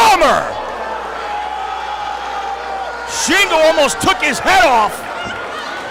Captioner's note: applause